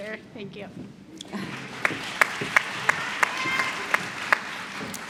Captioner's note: applause